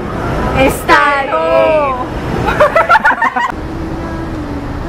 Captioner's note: laugh